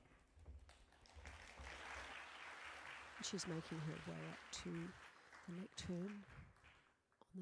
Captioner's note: applause